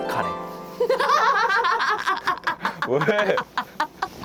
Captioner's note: suddenly bursts into laughter